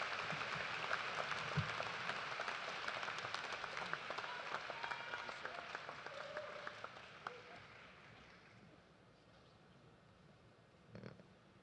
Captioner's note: applause